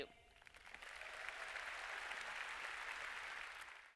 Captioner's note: applause